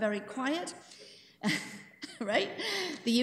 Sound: chuckles

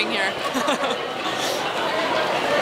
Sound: laughs

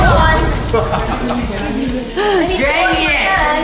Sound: laughs

